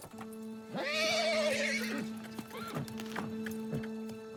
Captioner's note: horse neighing